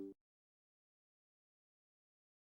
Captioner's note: silence